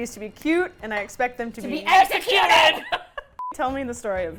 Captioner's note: laughs